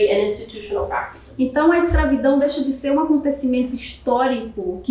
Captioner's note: speaking portuguese